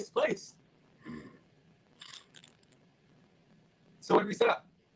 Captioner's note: Dominic grunts